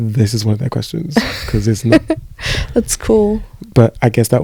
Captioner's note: laughs